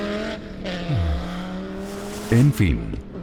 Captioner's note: sighs